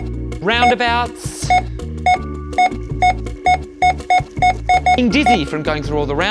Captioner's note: scanner beeping repeatedly